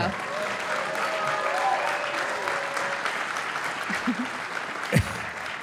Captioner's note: audience applauding